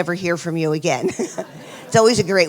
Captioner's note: laughs